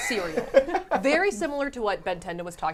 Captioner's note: laughing